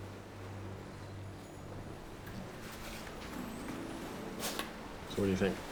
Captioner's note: ocean waves rolling in